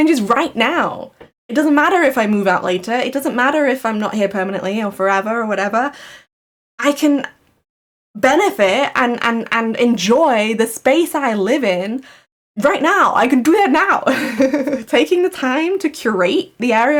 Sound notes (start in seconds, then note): 14.1 laughs